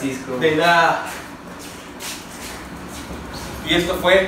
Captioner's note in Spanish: Pasos caminando y ruedas de la bicicleta rodando